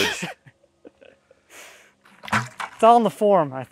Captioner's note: laughing